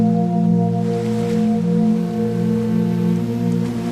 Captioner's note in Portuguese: Ondas quebram